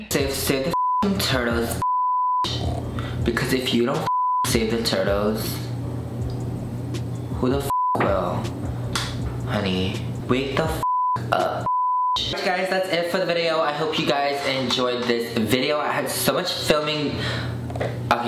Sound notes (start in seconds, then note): 0.7 beep; 4.0 beep; 7.7 beep; 11.6 beep